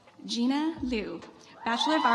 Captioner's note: audience applauds